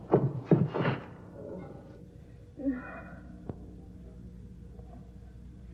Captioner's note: moaning